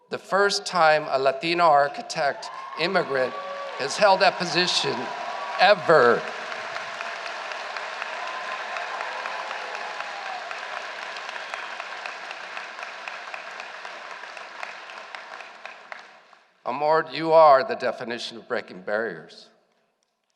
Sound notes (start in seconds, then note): 6.6 applause